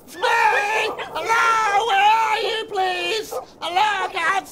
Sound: dogs yelping and barking

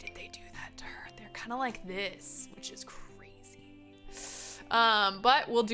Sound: inhales sharply

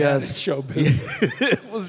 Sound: Tim laughing

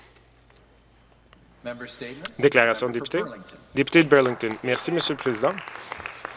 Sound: some Applause

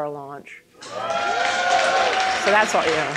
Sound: people cheering; people applauding

